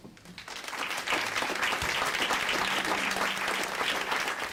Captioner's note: audience applauding